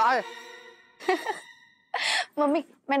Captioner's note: laughing